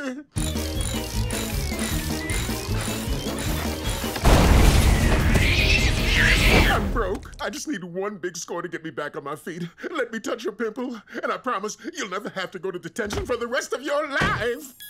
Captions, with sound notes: [screaming] I'm broke. I just need one big score to get me back on my feet. Let me touch your pimple. And I promise you'll never have to go to detention for the rest of your life.